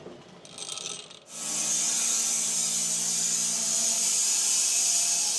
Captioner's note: saw whirring